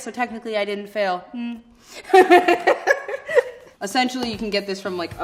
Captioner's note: laughing